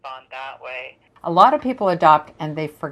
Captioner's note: woman on phone